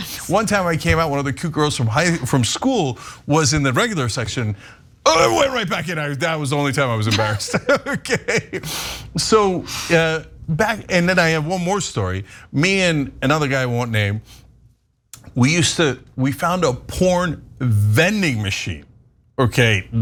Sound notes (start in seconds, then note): 9.6 laugh